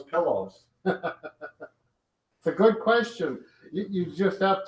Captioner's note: chuckles